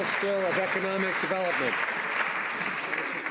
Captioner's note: some Applause